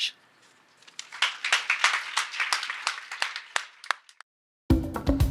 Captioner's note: audience applauds; funky music